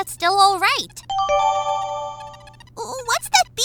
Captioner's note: electronic beeping